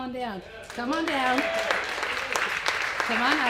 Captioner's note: applause